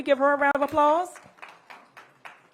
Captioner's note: applause